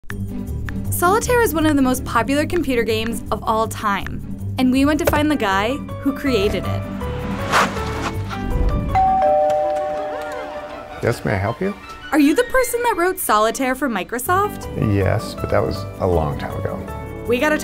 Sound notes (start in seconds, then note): 6.2 tires screech; 8.9 doorbell rings